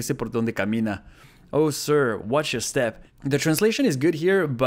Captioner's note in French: lit la traduction en anglais